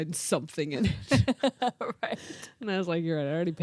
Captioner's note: laughs